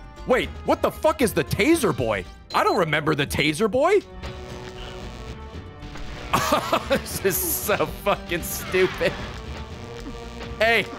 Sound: laughs

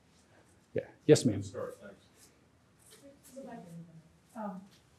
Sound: overlapping chatter

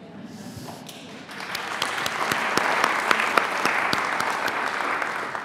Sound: audience applauding

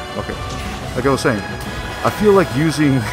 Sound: laughs

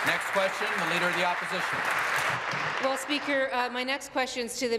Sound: applause

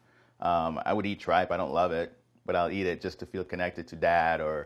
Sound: none

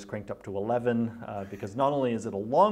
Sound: interviewer laughs

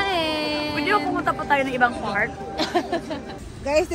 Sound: laughs

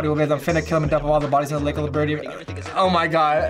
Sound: stutters

